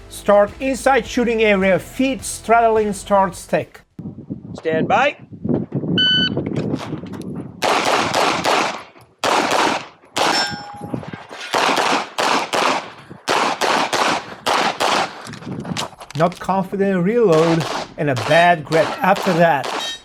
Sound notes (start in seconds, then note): 5.7 wind howling; 6.0 machine beeping; 7.6 gunshots banging; 10.1 targets pinging; 14.4 gun clicking